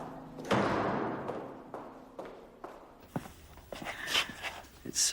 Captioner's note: door slams; footsteps click